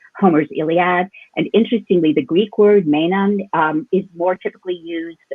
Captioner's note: speaks in Greek